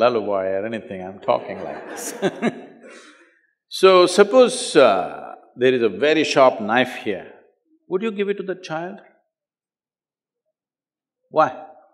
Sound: laughter

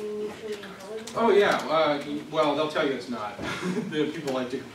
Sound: laugh

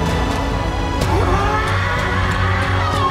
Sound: screaming

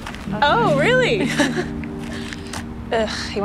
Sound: giggles

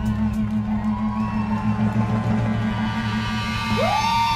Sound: audience cheering

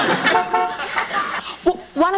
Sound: horn honks

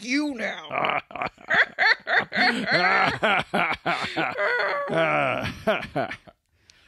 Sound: Han and Leia cackle

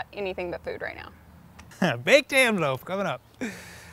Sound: chuckle; laugh

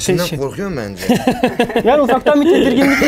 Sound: laughs

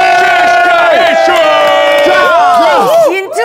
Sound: sound of cheering

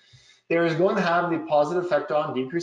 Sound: murmurs

